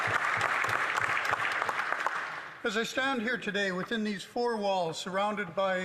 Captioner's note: some Applause